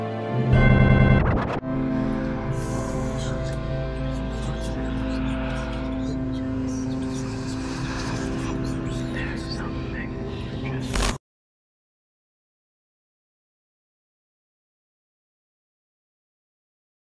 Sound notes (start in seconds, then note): 2.9 whispering